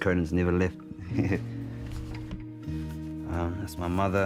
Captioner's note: chuckles